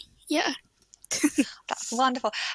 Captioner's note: chuckles